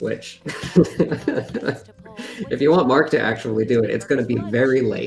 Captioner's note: laughs